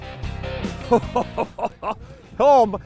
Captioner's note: chuckles